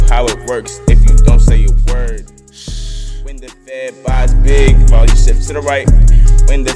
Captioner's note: shhh